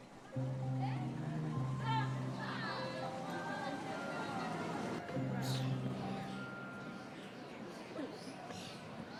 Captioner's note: background street noise